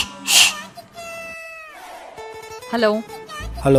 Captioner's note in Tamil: அழுகை